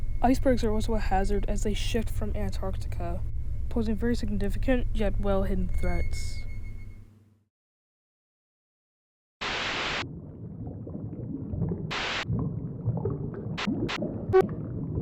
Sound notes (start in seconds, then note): 9.4 static; 9.7 bubbling; 11.9 static; 13.6 static; 14.2 distorted noise